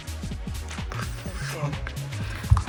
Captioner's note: quietly